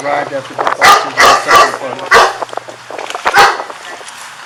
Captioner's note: dog barking